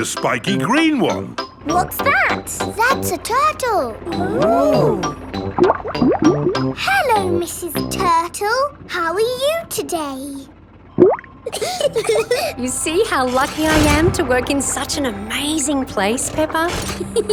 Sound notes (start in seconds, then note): 5.8 bubbling; 10.9 bubbles; 11.4 laughing